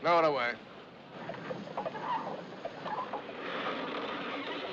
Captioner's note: Cordas rangendo